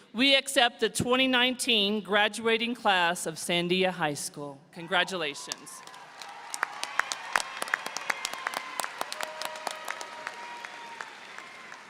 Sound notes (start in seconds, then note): 5.8 audience applauding